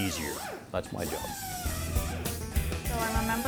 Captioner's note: drill whirring; lively country music